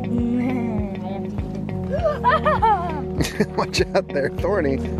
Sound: laughs

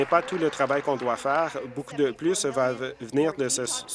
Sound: applause

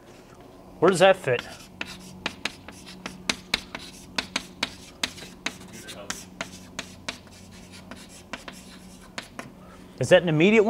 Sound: chalkboard writing

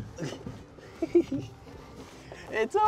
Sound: giggles

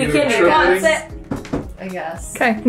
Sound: tapping on chair

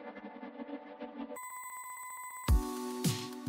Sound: alarm Sound

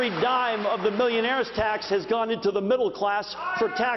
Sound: applause

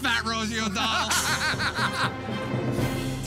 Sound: laughing

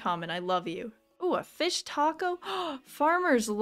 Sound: gasp

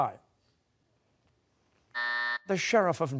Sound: buzzer

